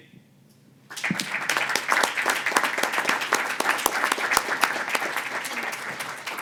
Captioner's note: applause